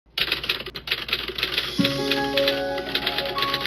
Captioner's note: typing